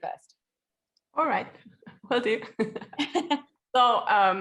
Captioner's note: laughs